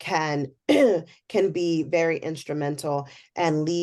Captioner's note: cough